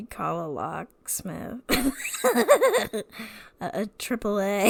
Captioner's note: laughs